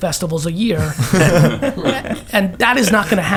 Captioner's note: all laugh